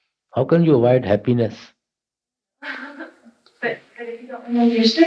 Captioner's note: laughs